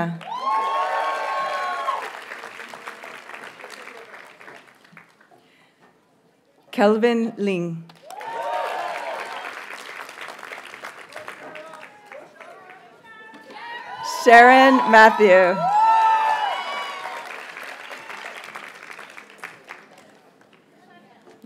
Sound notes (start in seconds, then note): 0.1 audience cheers and applauds; 7.9 audience cheers and applauds; 11.8 graduates chant; 15.4 audience cheers and applauds